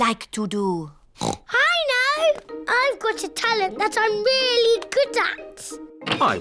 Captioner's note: oinks